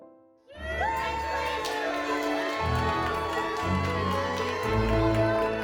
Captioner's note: family and friends applauding